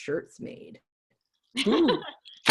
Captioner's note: laughter